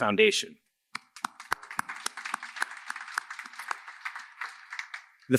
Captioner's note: applause